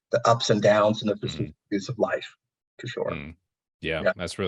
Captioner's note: audio distortion